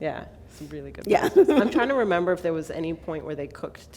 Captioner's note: laughter